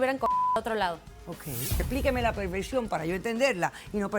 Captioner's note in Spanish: Bip